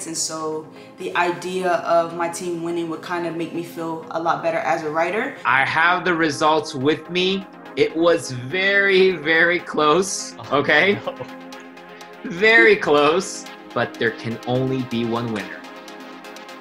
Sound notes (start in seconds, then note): 11.9 laughs